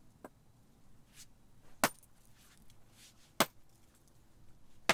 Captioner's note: pickaxe clanging